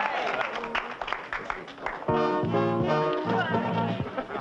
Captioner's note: audience applauding; dramatic music